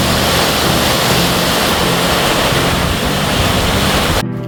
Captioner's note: sound of flowing water